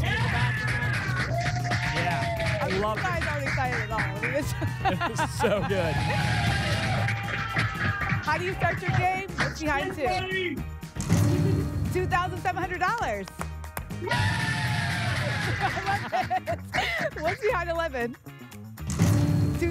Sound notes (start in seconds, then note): 6.3 applause and cheering; 12.8 applause and cheering